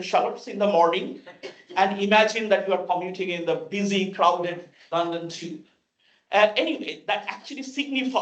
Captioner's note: laugh